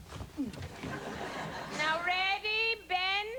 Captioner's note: laughter